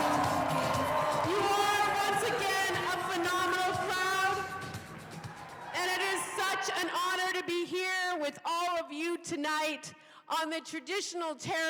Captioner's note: cheers and applause